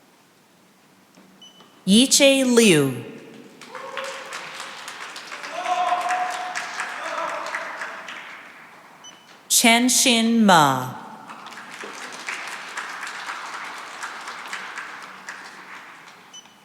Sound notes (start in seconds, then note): 3.6 cheering and applause; 10.0 applause